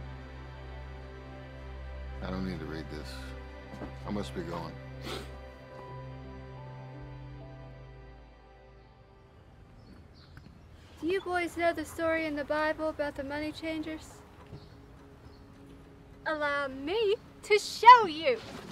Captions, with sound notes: (gentle music) I don't need to read this, I must be going. (gentle music) (birds chirping) - Do you boys know the story in the Bible about the money changers? Allow me to show you.